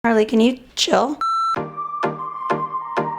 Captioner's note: beeping